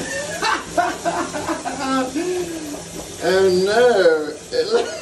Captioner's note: Phil laughs